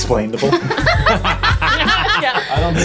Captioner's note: everyone laughing